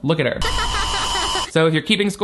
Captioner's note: child giggling